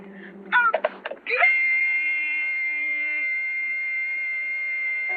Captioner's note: car horn honks